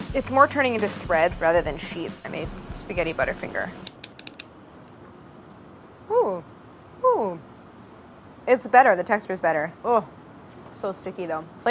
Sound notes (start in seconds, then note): 3.8 snipping